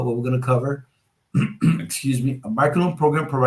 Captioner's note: clears throat